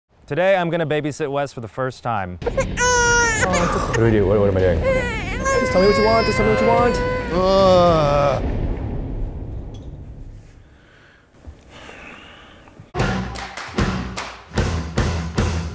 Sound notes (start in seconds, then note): 2.6 cries; 7.5 groans; 11.7 sighs; 13.0 rock music